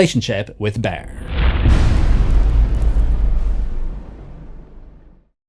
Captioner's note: impact